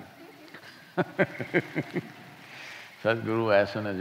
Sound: laughs

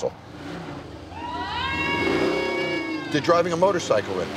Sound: crowd cheering

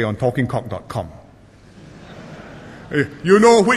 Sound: laughter

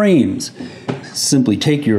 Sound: lid thudding

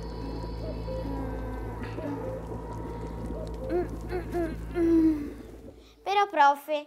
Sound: humming; sorceress humming; bubbling and crackling sounds

